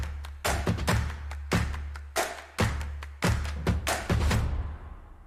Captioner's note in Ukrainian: оплески